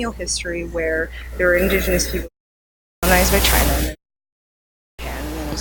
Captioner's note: mic cuts out